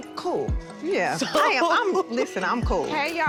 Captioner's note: laughing